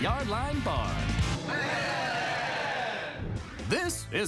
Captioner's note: cheering